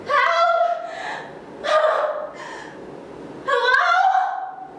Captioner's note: frightened whimpering